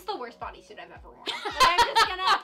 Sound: laughing

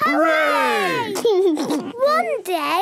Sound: laughs

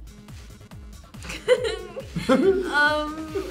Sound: laughing

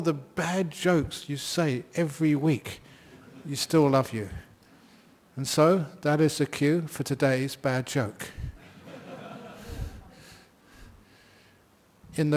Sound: laughs

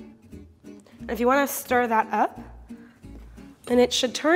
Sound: none

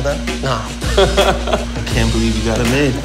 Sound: laughs

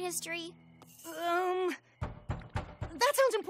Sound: knock on door

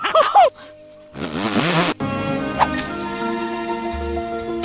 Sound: Timon and Pumbaa laugh in reverse; reversed spittle sound

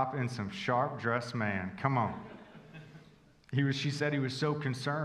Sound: congregation chuckling

